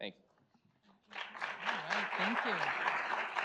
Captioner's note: audience applauds